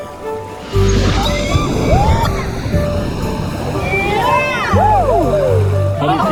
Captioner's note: cheering